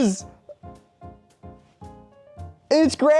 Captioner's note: astounded silence